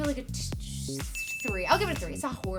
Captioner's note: stammers